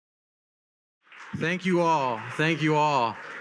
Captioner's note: attendees applauding